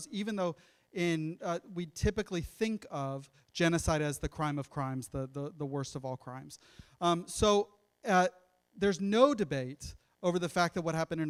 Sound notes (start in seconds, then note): none